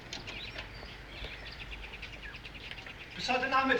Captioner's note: speaking german; woman speaking german